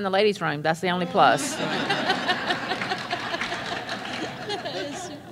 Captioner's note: laughter and Applause